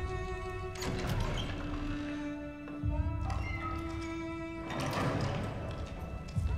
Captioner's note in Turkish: Kapı Sesi